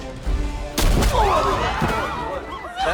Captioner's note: people screaming